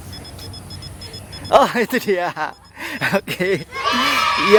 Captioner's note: chuckles